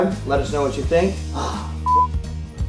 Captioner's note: beep